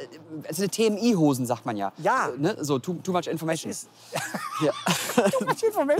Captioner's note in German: lacht